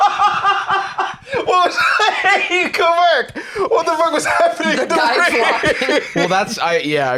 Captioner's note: laughing; laughs